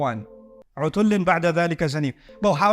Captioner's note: Arabic